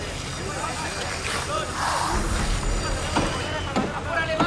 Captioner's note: hammers hammering; saws buzzing